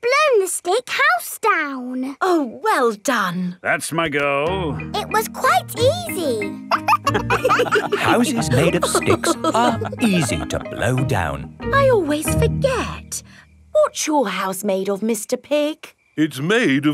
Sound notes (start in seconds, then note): 6.6 wolves laughing